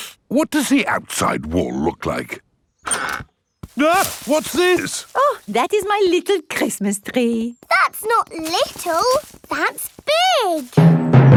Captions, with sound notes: (INHALES SHARPLY) What does the outside wall look like? (EXCLAIMS) What's this? Oh, that is my little Christmas tree! That's not little! That's big!